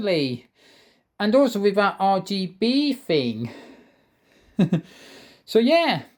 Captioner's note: chuckles